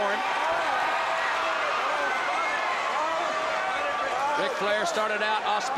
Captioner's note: crowd cheering